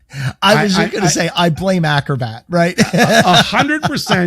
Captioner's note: laughs